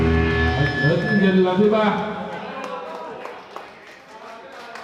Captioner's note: speaking foreign language; scattered applauding